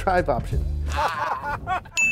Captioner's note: laughing